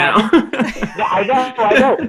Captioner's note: laughing